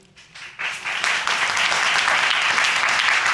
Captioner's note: audience claps